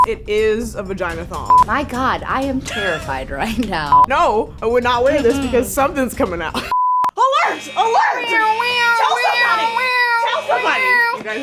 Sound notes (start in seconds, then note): 7.4 making siren noise